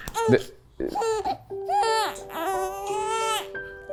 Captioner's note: baby crying